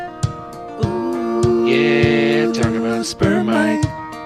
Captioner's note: soft oohing sound